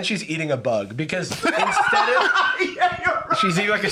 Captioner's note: laughing